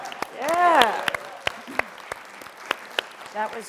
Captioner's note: applause